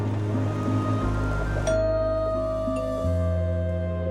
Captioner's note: doorbell rings